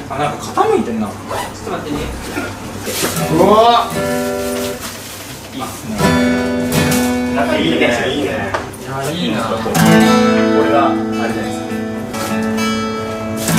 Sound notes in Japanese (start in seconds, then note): 3.3 ざわざわ、、